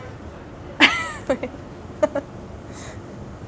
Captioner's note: laughs